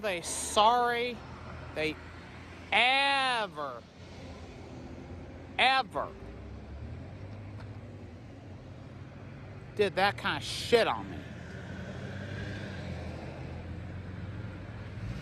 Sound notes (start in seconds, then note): none